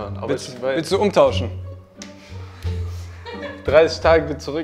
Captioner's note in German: Lachen